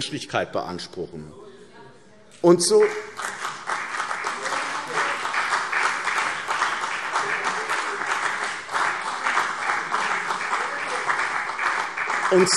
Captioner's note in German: Beifall CDU, BÜNDNIS 90/DIE GRÜNEN und AfD